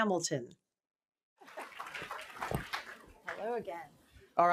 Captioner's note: applause